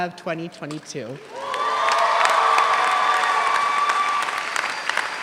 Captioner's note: audience applauds